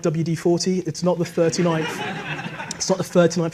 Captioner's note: audience laughs